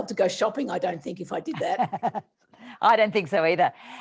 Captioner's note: laughing